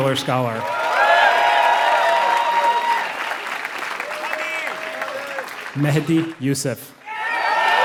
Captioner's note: applause